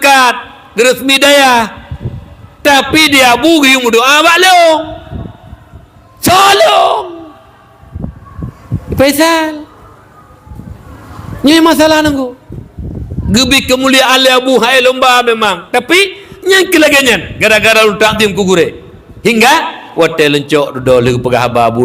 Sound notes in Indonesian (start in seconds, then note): 6.2 berteriak